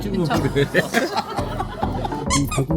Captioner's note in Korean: 웃음